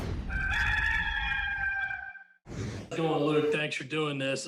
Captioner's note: rooster crowing